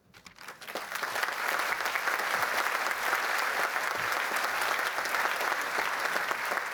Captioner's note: applause